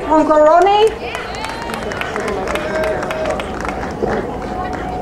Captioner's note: crowd cheering